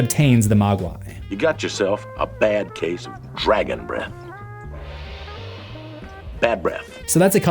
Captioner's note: gong